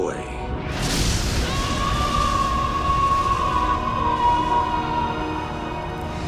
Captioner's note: screaming